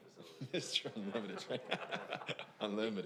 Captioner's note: laughs